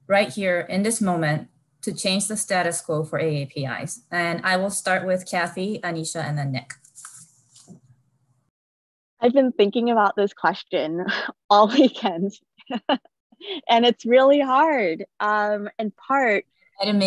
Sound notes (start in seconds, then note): 12.6 laughs